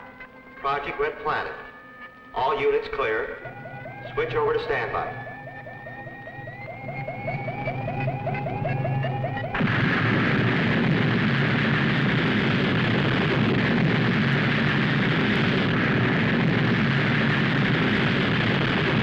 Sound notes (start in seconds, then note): 6.4 electronic beeping; 9.6 rockets igniting